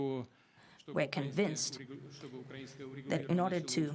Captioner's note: through translator